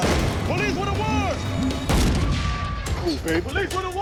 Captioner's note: shooting